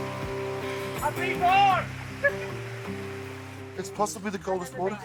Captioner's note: exclaims